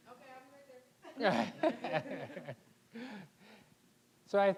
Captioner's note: scattered laughing